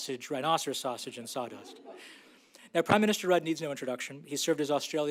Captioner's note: laughter